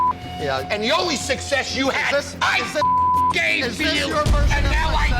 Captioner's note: beep; beep